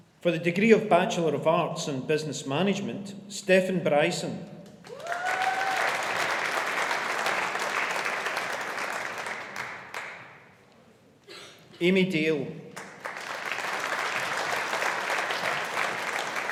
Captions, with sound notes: For the degree of Bachelor of Arts and Business Management, Stefan Bryson (AUDIENCE APPLAUDING) Amy Dale (AUDIENCE APPLAUDING)